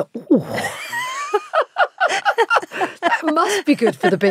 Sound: Giovanna laughs

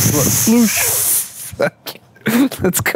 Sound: laughs

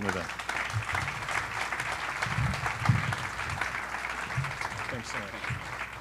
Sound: applause

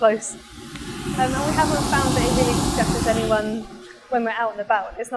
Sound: blowing fan noises

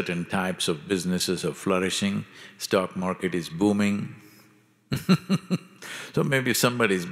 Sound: laughs

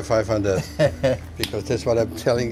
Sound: laughs

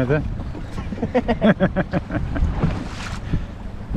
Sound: laughs

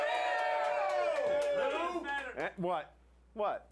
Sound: audience cheering

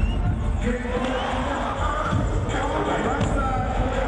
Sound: crowd goes wild

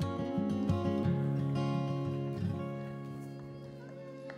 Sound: hands clapping

